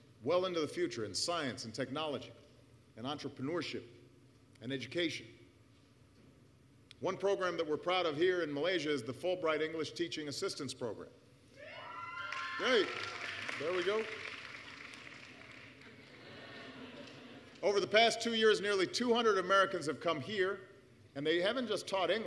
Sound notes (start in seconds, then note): 12.2 applause; 16.0 laughter